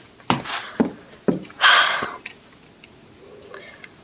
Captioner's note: sigh